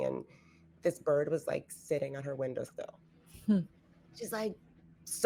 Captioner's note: none